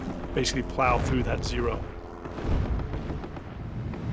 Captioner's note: gunshots